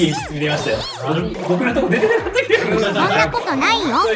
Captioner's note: laughs